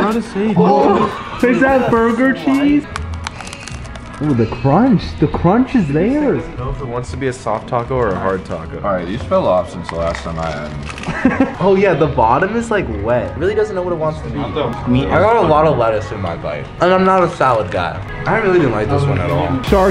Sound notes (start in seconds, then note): 3.0 taco shell crunches